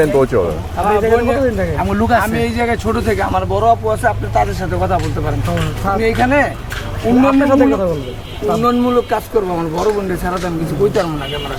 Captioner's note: local language